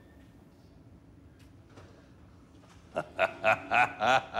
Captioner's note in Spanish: Carcajadas